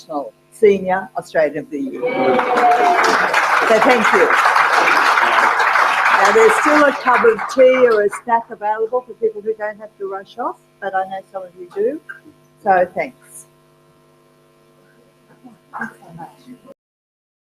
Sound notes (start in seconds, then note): 2.0 applause